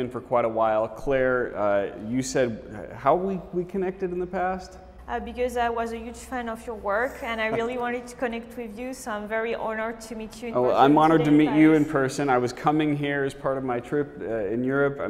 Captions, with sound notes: for quite a while. Claire, you said how we connected in the past? - Because I was a huge fan of your work (laughs) and I really wanted to connect with you. So, I'm very honored to meet you in person here today in Paris. - Well I'm honored to meet you in person. I was coming here as part of my trip in Europe